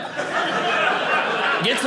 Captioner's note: audience laughing